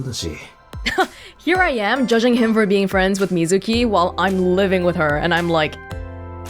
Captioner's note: chuckles